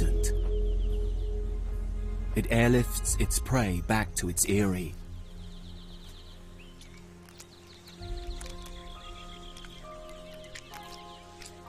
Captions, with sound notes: It airlifts its prey back to its aerie. (light music) (birds chirping)